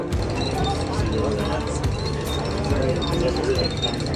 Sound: chain cranks

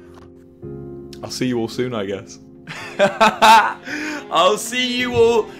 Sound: laughs

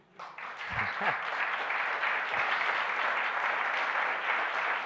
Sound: audience applauds

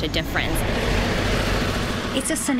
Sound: cars' engine roaring

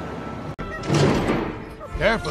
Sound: door opening

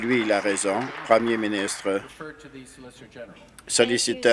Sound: applause

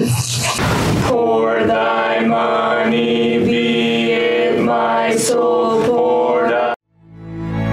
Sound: together chanting

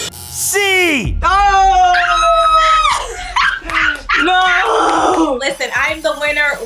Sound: screaming

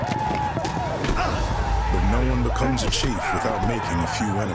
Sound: grunt, indians yelling

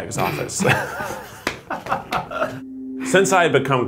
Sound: everyone Laughs

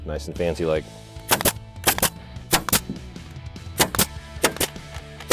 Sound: nail gun popping

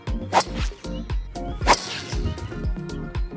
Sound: golf club whacks; upbeat music

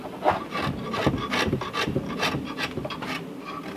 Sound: grating

